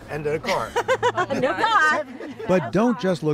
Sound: laughter

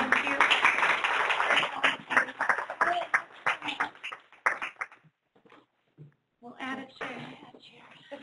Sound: applause

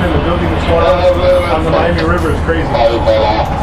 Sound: radio cuts off speaker

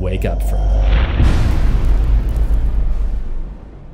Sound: real big impact sound

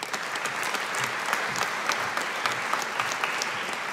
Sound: audience applauding

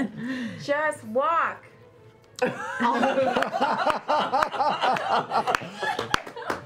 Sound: laughter

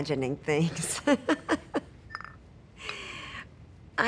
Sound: Maddie laughs

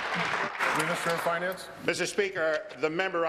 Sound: applause

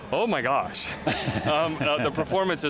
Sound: laughing

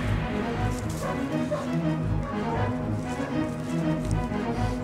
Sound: dogs barking

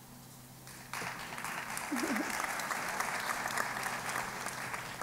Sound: applause

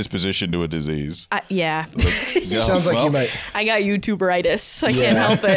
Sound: laughs

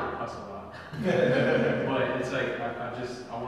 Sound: people laugh

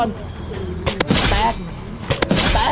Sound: gunshot firing

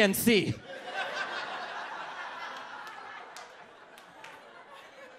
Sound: audience laughs

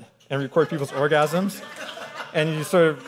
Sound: audience laughing

